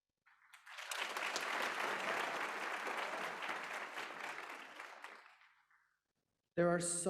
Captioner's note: applause